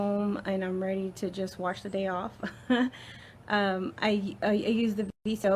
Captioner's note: laughs